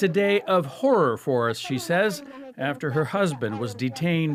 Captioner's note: speaking alternate language